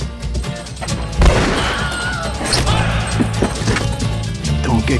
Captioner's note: man screams; gun fires